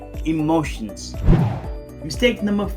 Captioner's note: air swooshing